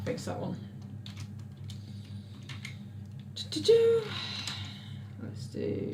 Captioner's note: exhales; keyboard clicks